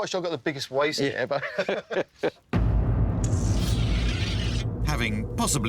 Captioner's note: laughing